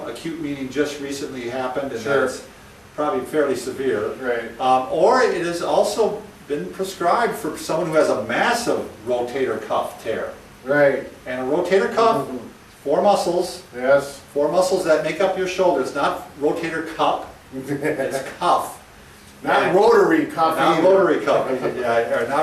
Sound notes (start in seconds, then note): 17.5 laughs